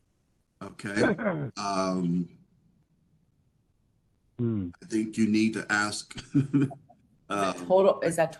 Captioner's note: laugh